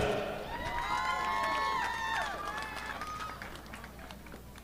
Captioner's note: audience applauding